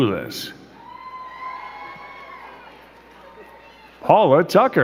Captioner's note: crowd cheering and clapping